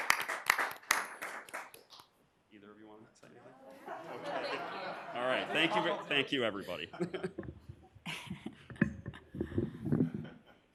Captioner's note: applause